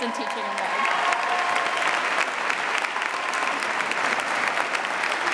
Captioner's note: audience applauding